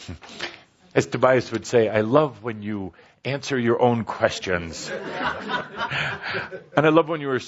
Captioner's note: laughter